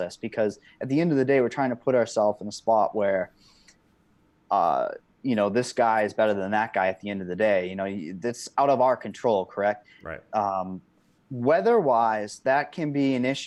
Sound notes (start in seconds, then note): none